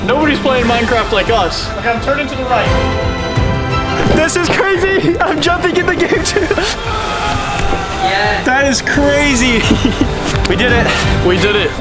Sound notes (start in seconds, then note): 4.9 laughs; 6.9 grunts with effort